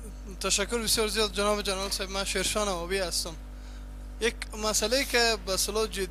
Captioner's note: speaking in foreign language